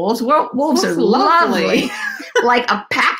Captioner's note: laughs